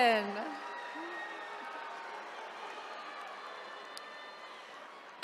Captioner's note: attendees cheering